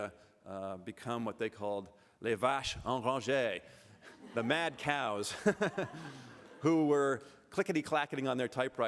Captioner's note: french